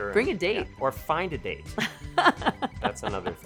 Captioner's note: laughs